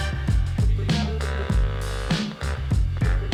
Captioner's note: laughs